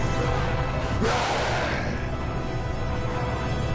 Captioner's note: all grunting; roars